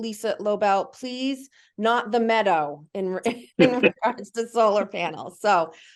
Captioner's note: laugh